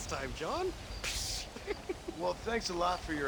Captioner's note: laugh; laughs